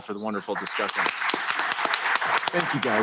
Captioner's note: applause